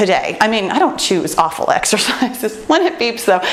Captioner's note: laughs